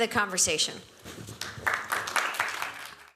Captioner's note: applause